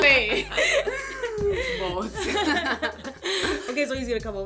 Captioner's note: laughter